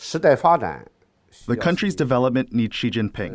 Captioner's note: speaking foreign language